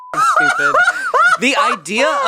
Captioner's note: beep; laughs